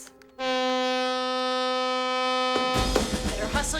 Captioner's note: blaring